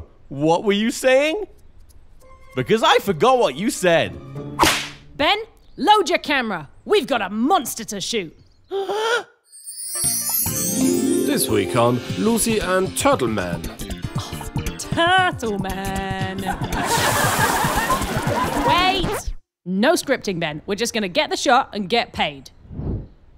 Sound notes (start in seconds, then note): 8.5 funky, upbeat music; 8.7 gasps in awe; 13.8 Lucy sighs in amusement; 16.4 canned audience laughing